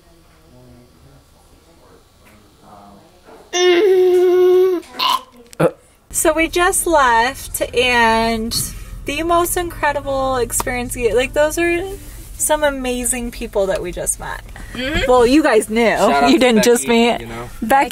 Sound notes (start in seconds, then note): 3.6 fake laughs and gags